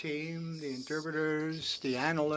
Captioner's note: speaking French